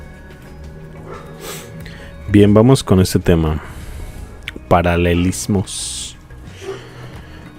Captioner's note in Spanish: resoplido